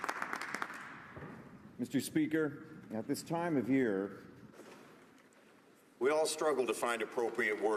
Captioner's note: some Applause